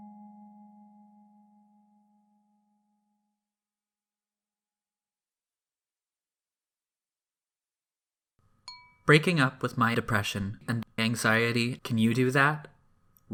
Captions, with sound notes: [music stops] [chime sound] "Breaking Up With My Depression and Anxiety, Can You Do That?"